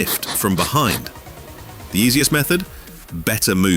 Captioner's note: dog sniffing noises